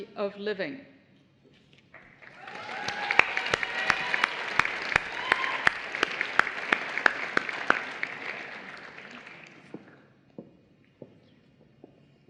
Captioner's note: applause